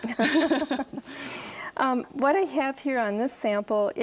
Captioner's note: both laugh